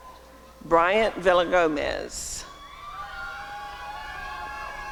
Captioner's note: applause and cheering